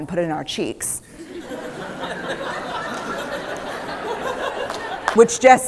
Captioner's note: laughter